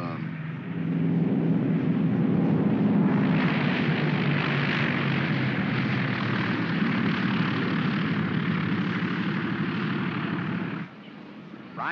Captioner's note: aircraft rumbles